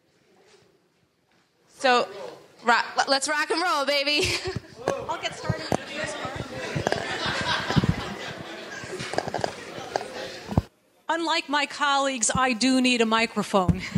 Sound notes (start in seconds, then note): 7.2 people chattering